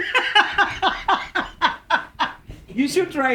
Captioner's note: both laugh